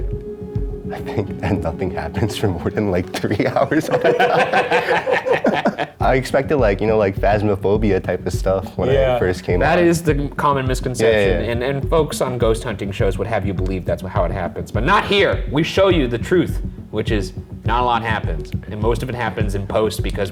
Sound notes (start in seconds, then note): 3.1 everyone laughing